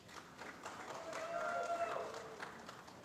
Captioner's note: applause